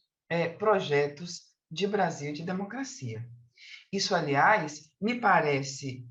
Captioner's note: continues speaking in Portuguese